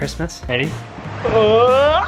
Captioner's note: laughs